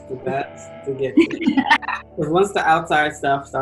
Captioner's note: laughs